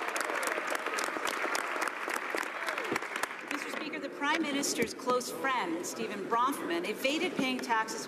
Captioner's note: some Applause